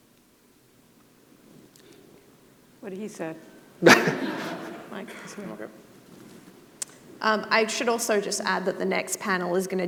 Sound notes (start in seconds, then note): 3.8 audience laughing